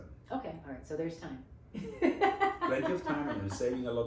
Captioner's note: laughs